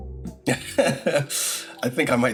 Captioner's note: laughs